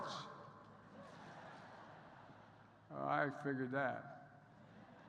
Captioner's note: laughter